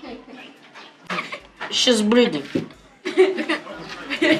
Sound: chuckles; laughter

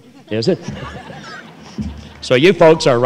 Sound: laughter

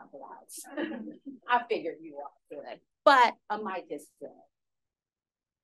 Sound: laughter

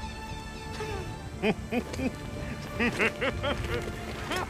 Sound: evil Laugh

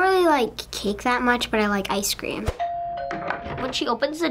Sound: doorbell rings

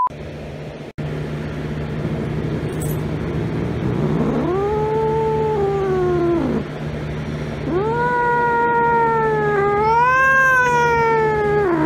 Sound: Caprice growls, then meows and growls again

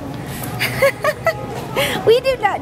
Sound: laughter

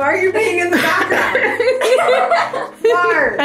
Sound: all laughing

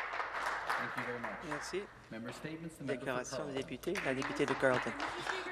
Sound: some Applause

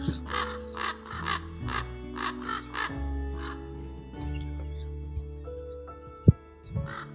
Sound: ravens croaking sound

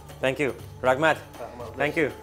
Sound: in foreign language

